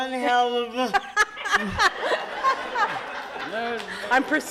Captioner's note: laughs